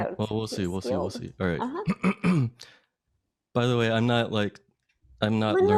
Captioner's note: clears throat